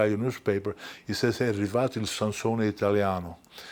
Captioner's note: speaking foreign language